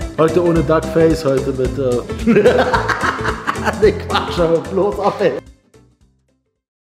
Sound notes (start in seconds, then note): 2.2 laughter